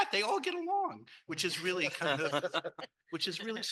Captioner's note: panel laughing